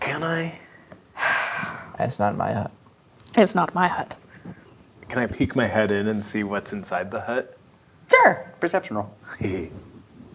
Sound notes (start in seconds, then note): 1.2 sighs